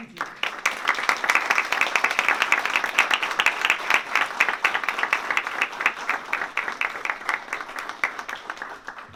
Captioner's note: applause